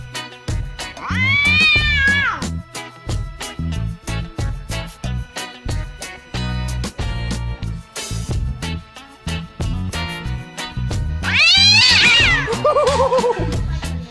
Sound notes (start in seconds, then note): 1.0 ragdoll Cat yowling